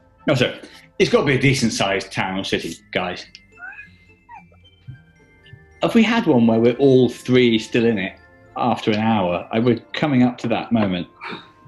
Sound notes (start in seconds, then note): 3.5 chuckling